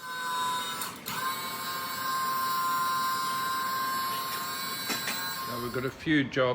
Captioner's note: car jack sound